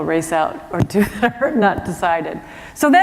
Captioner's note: chuckle